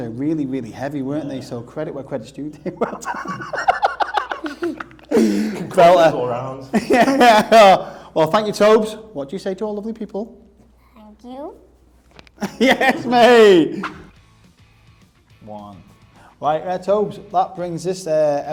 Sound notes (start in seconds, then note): 2.6 laughter